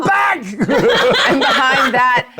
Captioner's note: laughs